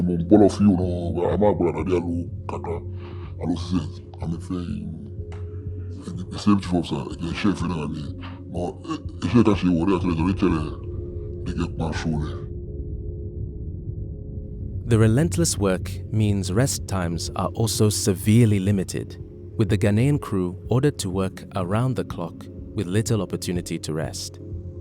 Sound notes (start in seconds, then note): 14.4 voiceover